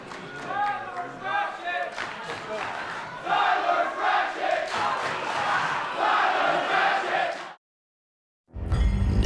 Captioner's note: fans chanting